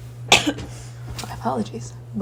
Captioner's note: loud coughing